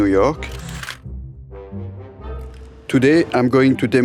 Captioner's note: slide rolling